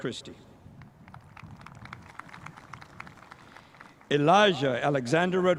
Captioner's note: spectators applauding